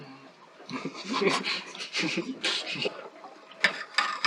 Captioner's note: conspiratorial laughter